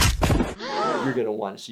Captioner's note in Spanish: la multitud jadea